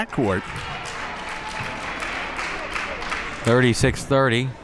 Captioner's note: crowd applauds